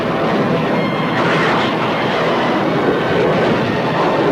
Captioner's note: guns firing